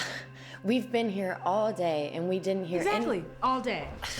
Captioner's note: scoffs